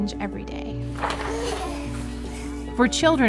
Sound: paper rustling; kid gasps

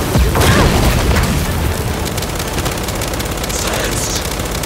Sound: distant explosion

